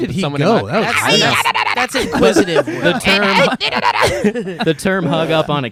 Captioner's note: speaks gibberish